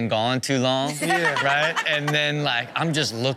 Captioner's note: Chanel laughs